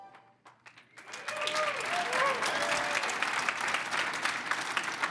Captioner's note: crowd applauds